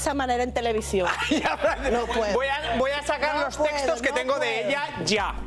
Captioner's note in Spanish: risas